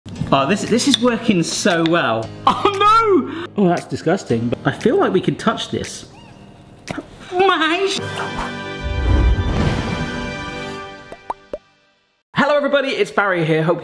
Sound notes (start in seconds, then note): 7.5 yelps; 7.9 triumphant music